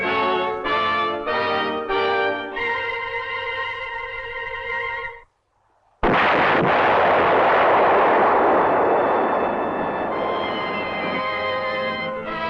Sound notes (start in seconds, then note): 5.9 rocket exploding; 8.3 dramatic orchestral music